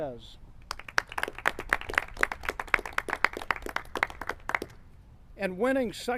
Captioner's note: clapping